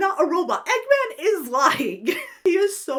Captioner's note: laughs